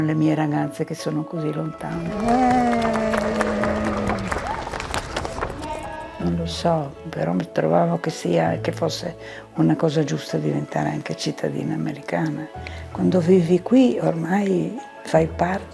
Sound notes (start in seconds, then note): 1.7 group cheers and applauds; 6.8 speaking in foreign language